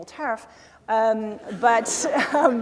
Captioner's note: laughter